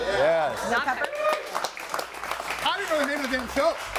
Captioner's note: audience applauding